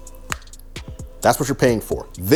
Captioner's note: snaps